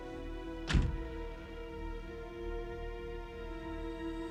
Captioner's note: door thuds